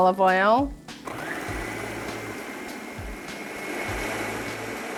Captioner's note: whirring